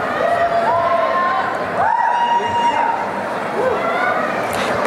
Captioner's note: applause and cheering